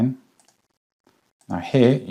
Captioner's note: mouse clicking